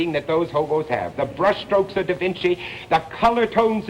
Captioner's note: none